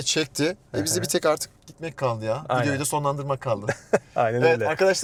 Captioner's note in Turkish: kahkaha